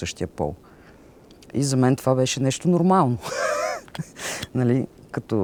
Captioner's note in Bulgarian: смее се